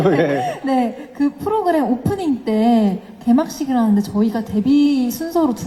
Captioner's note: laughter